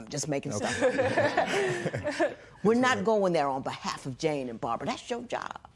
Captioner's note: laughter